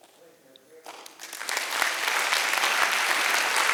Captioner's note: applause